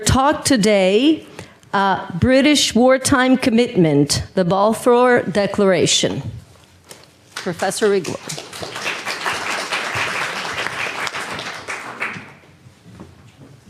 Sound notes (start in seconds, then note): 7.8 audience applauds